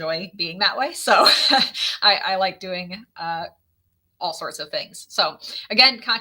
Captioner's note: laughs